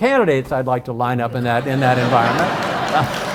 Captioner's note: audience laughs; laughs